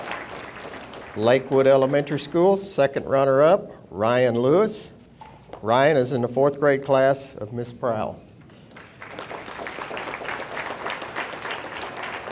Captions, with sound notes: Lakewood Elementary School. Second runner up, Ryan Lewis. Ryan is in the fourth grade class of Miss Praul. (audience applauding)